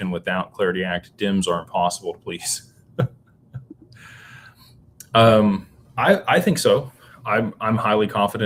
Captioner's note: laughter